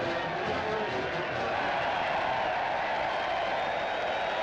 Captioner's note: cheering